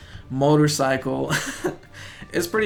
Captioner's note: chuckles